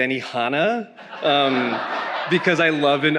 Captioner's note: attendees laughing